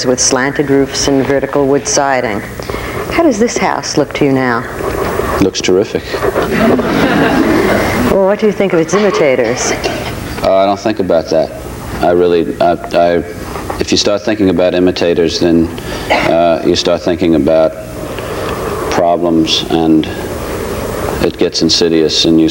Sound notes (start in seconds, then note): 6.0 audience laughing